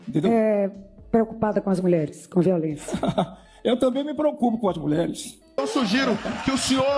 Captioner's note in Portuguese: risadas